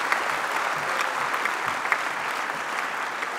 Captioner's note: applause